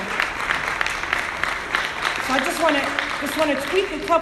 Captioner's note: audience applauding